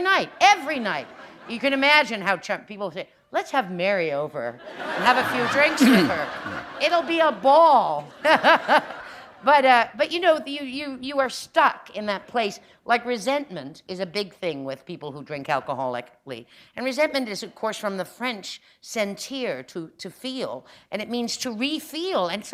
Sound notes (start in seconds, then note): 8.0 laughter